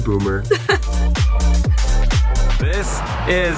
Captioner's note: energetic music; laughs